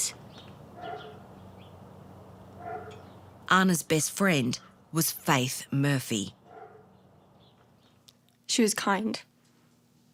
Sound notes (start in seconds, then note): 0.0 birds chirping; 0.7 dog barking